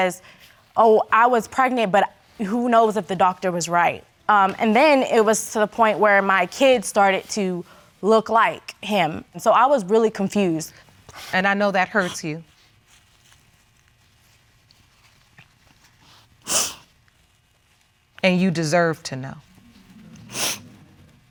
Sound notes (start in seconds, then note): 16.4 sniffles